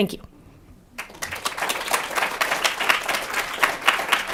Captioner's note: applause